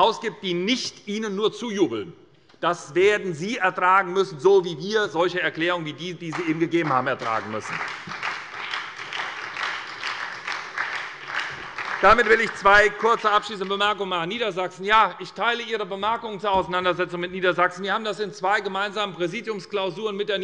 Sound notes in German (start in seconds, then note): 8.8 Beifall bei der SPD